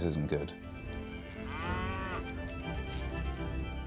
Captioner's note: cow moos